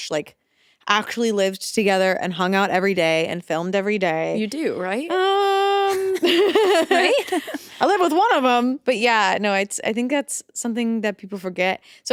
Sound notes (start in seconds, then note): 5.8 both laughing